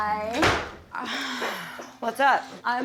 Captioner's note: sigh